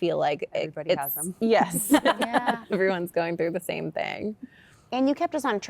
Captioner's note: laughter